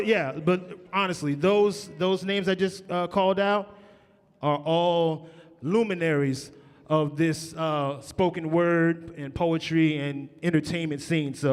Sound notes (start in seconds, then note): none